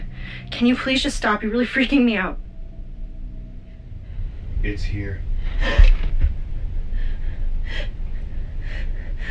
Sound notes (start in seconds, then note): 6.9 Marla gasping